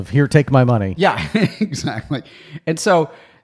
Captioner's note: laughs